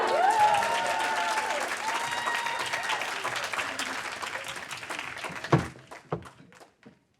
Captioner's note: cheers; audience applaud